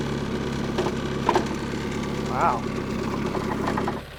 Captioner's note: metal clanks